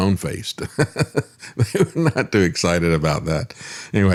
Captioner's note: laughs